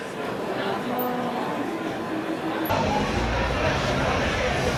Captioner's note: people chattering